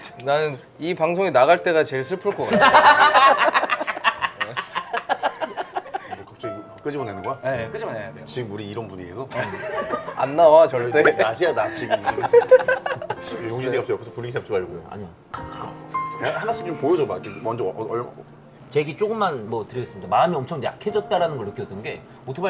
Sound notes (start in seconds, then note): 2.4 laughing